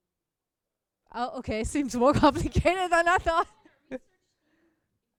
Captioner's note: laughs